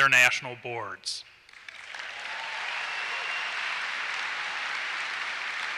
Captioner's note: applause and cheers